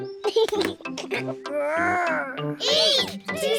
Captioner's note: giggles